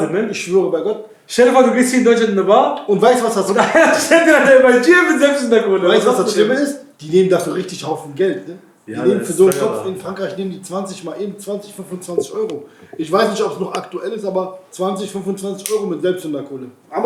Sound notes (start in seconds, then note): 3.1 laughs